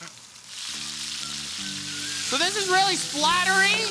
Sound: sizzling

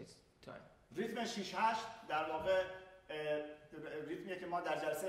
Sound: speaking in farsi

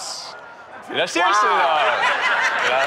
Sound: laughter

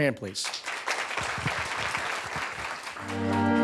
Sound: attendees applauding; bright music

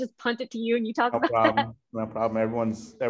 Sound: laughing

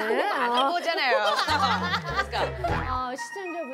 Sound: giggles

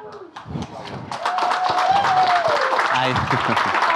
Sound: audience applauding

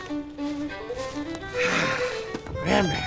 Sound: sighs

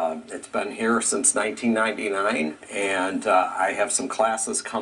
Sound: none

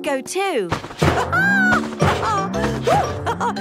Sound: laughs

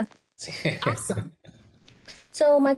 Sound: man chuckling

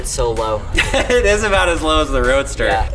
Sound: laughing

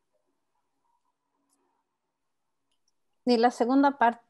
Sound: speaking Spanish

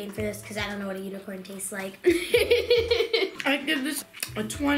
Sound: laughs

